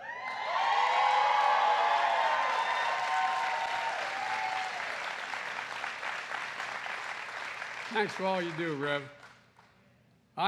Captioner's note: applause